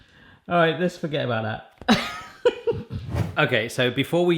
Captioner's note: laughs